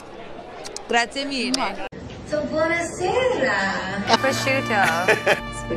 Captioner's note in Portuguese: falando italiano